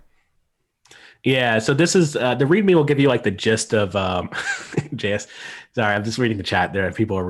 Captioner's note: laughter